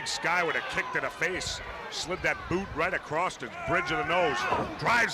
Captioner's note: crowd chatter